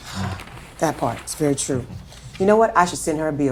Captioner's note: sighing